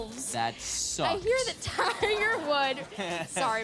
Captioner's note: audience laughing